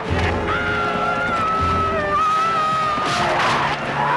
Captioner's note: villager yells